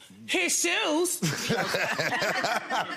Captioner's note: laughs